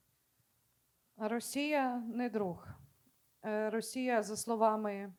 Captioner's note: speaking Ukrainian